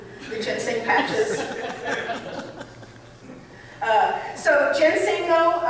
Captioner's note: audience laughing